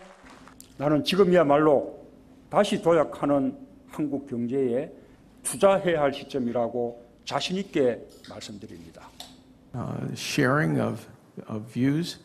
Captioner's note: Korean